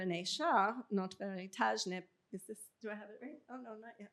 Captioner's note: non-english speech